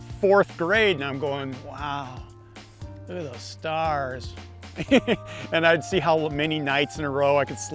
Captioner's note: laughs